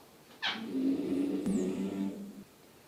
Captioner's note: A sound from dad's teeth